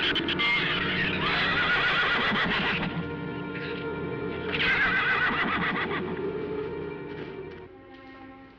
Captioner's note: shrews chattering; horse neighing